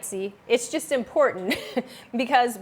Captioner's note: chuckles